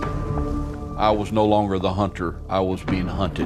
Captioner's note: fire crackling